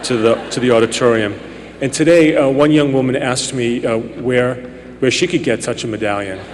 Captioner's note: laughter